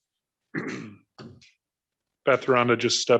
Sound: throat clears

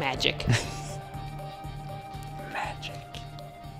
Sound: whispers

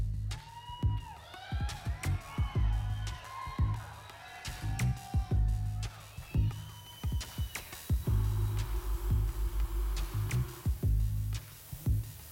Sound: cheering

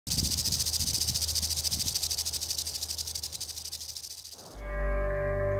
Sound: rattling

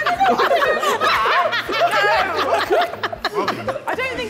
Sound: woman 2 laughing

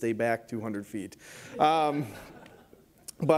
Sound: laughter

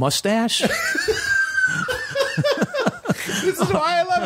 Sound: laughter

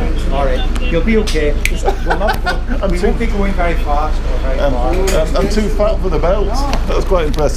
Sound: laugh

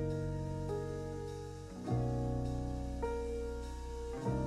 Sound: none

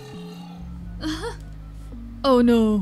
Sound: Sabrina laughs

